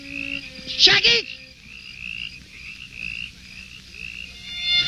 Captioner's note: shouting I foreign language